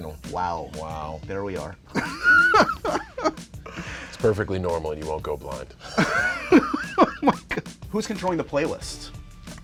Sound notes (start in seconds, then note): 1.9 laughs; 5.8 laughter